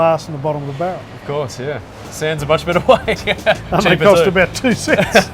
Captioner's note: laughs